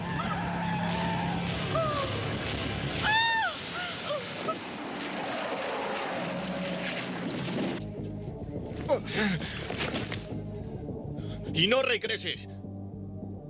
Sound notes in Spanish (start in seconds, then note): 0.2 Pneus cantando; 8.0 Homem gemendo